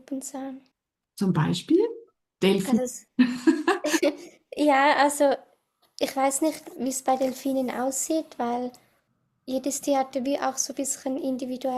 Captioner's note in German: gelächter